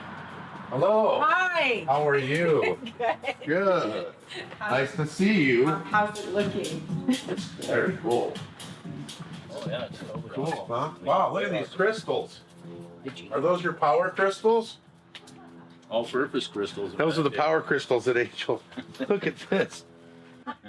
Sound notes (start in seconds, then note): 2.6 chuckling